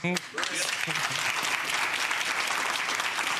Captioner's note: crowd clapping